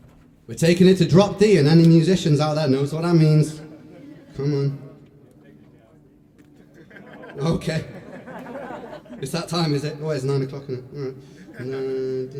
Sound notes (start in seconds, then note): 6.6 laughter